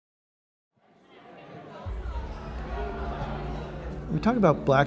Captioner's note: people chatting